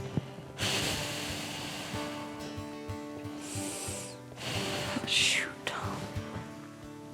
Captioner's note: exhales